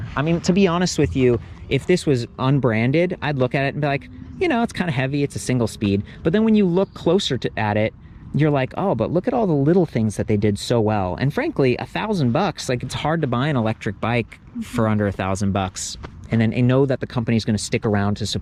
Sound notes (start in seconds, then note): none